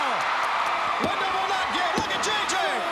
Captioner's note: crowd cheering